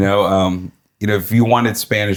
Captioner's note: laughing